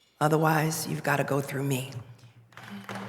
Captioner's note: applause